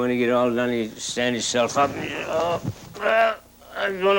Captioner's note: grunts